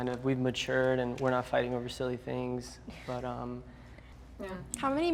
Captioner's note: none